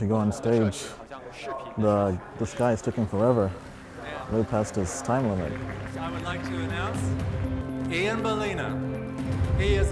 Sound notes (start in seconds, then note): 6.0 audience applauds